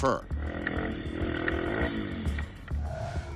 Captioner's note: bike engine revving